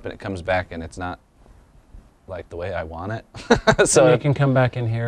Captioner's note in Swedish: skratt